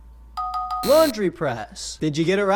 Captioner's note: buzzer buzzes